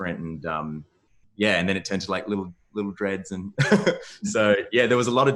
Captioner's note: laughs